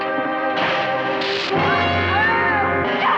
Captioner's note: screams